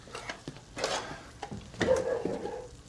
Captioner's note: barking